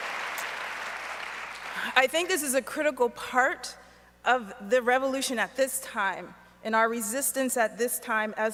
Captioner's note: applause